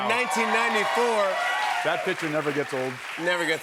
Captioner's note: cheers and applause